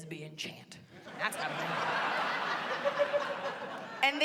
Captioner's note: laughter